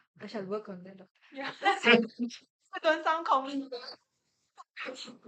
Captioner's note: everyone laughs